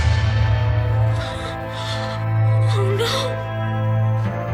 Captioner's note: gasping